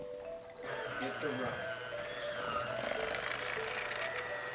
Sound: beater whirring

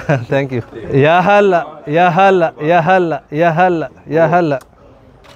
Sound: Arabic

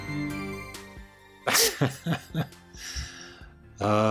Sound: laughs

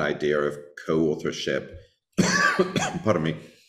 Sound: coughing

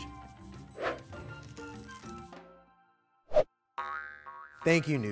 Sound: whooshing graphic

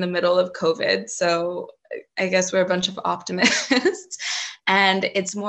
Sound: chuckles

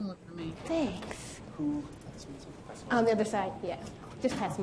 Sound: voiceover

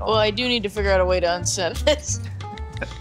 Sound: laugh

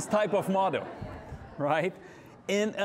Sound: audience laughing

